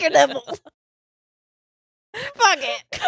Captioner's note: laughing quietly